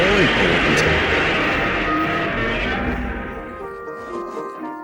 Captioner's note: godzilla roar